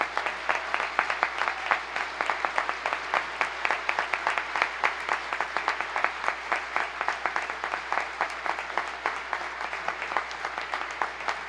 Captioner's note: applause